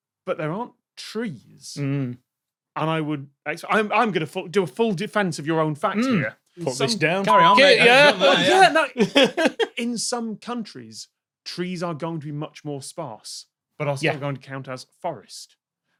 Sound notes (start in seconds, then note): 6.6 giggles